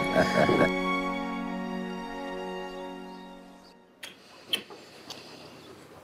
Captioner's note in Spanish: Risas